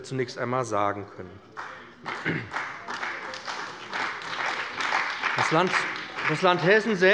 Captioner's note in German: Beifall bei dem BÜNDNIS 90/DIE GRÜNEN und der CDU